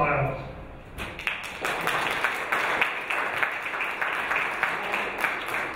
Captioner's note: audience applauding